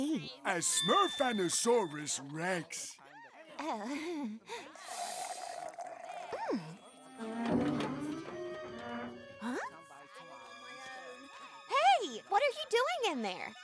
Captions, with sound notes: A Smurfundersaurus Rex. Oh. [chuckles] [slurping] Mm. Huh? Hey, what are you doing in there?